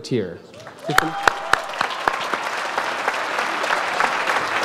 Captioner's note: audience applauds